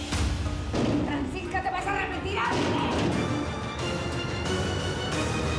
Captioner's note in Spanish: Golpes en la puerta